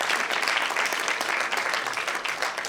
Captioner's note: applause